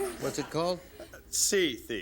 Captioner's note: laughter